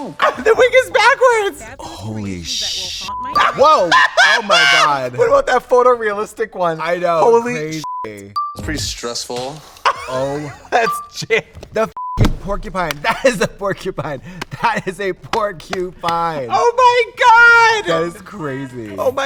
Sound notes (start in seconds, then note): 3.0 beep; 4.3 Trixie laughs; 7.7 beep; 9.7 Trixie laughs; 10.8 beep